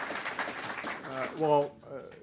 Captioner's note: applause